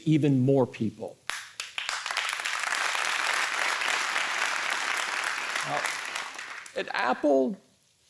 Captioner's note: applause